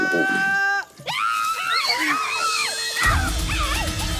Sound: screaming; suspenseful atmosphere music

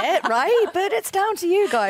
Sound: laughter

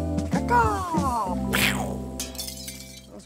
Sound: glass shatters

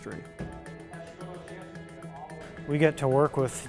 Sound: men talking

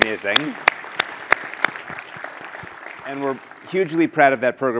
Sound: applause

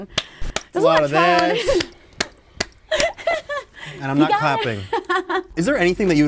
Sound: clapping

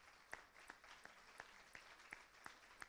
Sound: applause

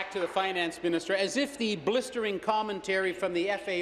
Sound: applause

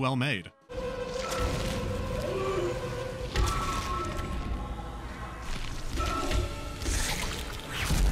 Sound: desperate screaming

